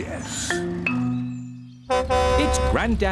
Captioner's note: horn honks